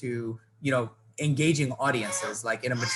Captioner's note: child crying